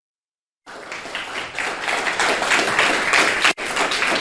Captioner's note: group applauding